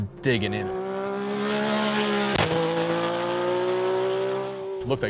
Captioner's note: engine Revving